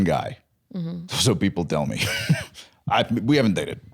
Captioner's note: laughs